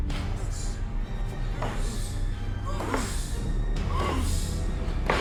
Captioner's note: crowd chanting